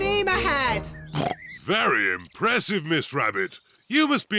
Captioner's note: oinks